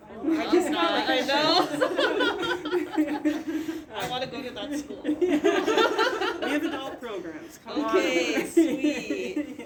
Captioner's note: laughing